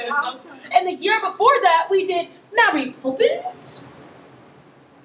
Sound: British accent

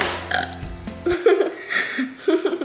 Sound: belching; laughs

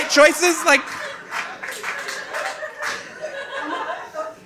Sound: audience laughing

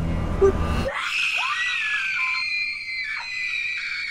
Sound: laughs; girls screaming

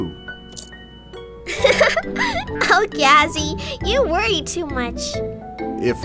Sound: giggles

